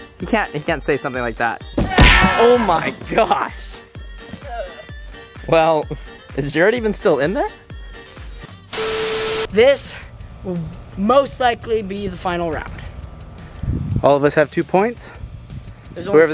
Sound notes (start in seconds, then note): 2.0 successful ding; 4.2 upbeat music